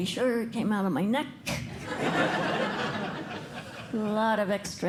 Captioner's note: laughter